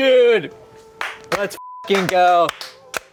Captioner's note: beep